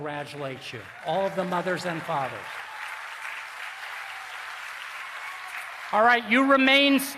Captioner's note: applause